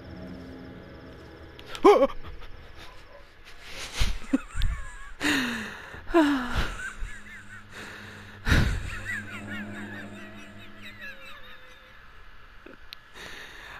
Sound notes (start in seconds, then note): 1.0 noise of panic; 3.8 laughter and a sigh of relief; 7.8 laughing